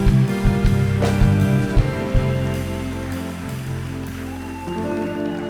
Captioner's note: cheering